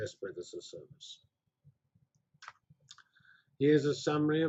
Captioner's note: pause